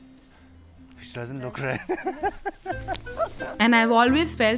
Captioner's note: laughs